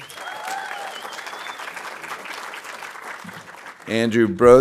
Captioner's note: audience applauding